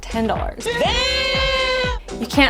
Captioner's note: guys screaming